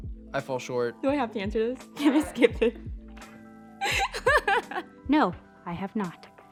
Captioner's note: laughing